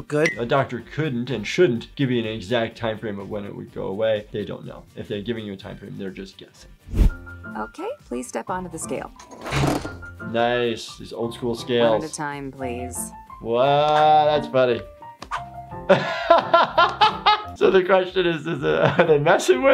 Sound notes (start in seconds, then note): 9.5 metal crunching; 15.9 laughs